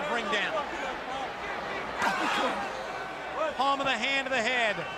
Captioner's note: crowd cheering